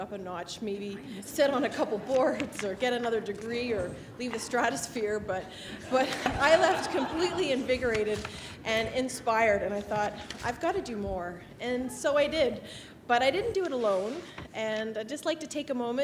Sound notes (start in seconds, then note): 5.7 laughter